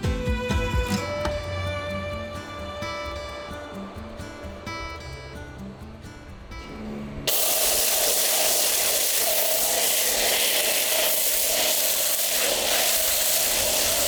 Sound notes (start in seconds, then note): 7.2 car wash noise